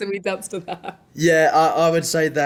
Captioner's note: laughs